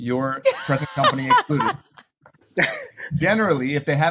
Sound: laughing

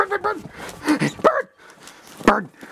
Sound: bird chirps

